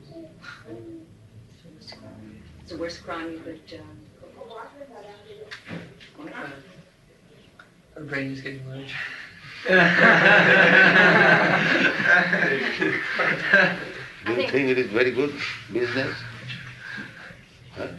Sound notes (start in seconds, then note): 13.0 laughter